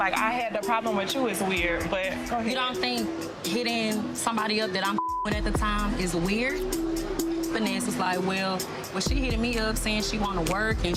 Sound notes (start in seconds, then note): 4.9 beep